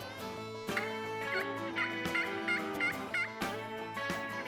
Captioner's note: turkey call